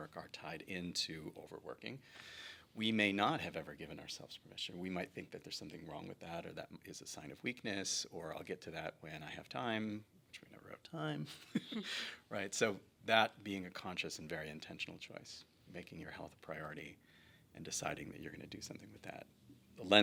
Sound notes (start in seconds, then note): 11.8 laughs